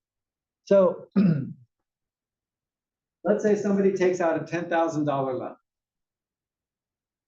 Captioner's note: cough